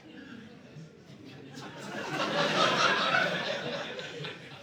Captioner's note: audience laughing